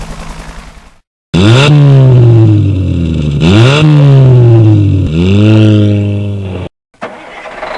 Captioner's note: helicopter sounds; car engine revving; semi Truck Starting